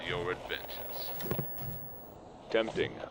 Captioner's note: radio turns off